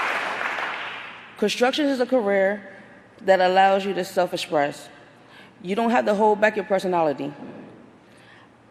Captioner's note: applause